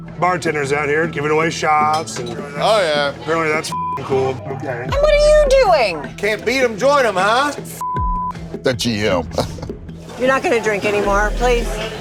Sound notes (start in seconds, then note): 3.7 beep; 7.8 beep